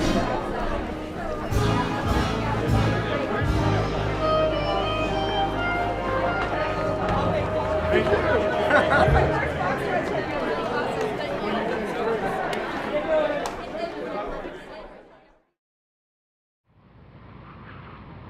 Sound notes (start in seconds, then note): 7.3 laughter and indiscernible dialogue